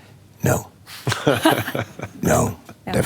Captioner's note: laughter